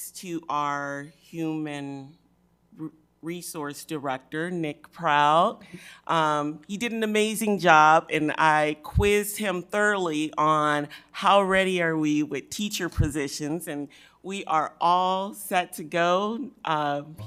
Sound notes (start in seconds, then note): none